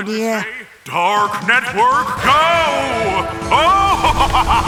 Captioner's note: evil Laughter